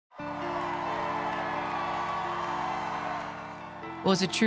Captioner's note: people cheering; soft rock music